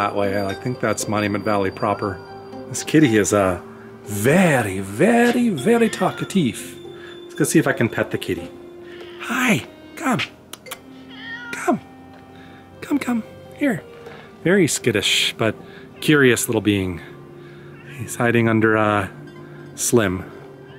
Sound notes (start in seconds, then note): 11.7 cat meows; 13.7 cat continues meowing